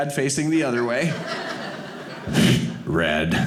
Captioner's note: audience laughing